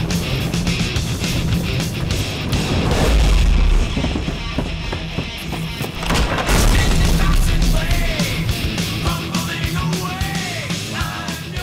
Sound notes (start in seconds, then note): 0.0 guitar music; 6.3 door clacks